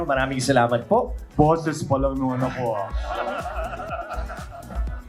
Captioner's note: laughs